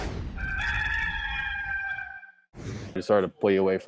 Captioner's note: rooster crowing